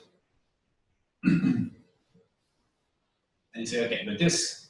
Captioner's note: pause